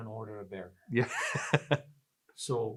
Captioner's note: laughs